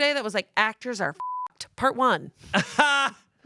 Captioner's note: beep; laughs